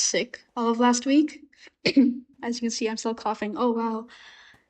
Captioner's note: cough